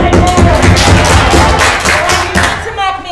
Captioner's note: staff banging